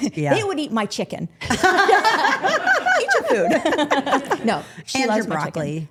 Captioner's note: women laughing